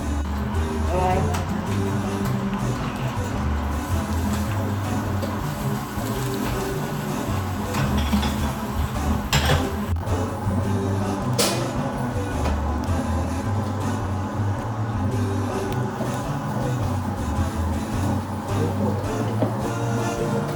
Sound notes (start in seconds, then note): 18.5 laugh